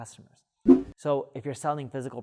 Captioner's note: air whooshing